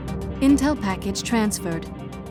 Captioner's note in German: bedrohliche elektronische Musik; Voiceover